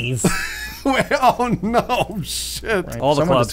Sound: laughing

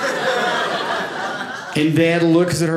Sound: audience laughing

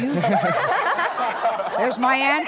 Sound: laughter

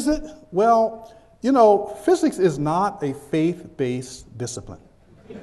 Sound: chuckles

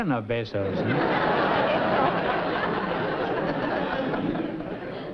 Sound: laughter

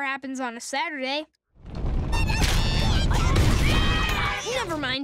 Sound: stomping, arguing, horn honking

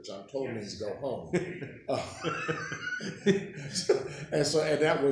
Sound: laughing

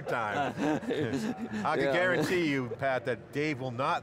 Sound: laughing

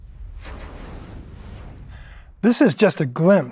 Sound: graphic whooshes

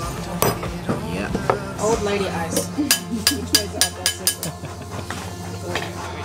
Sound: chatting in background

